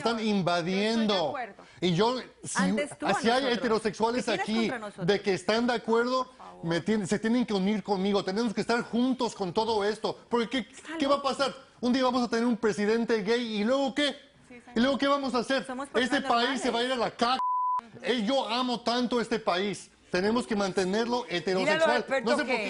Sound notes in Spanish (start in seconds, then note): 2.8 Hablan al unísono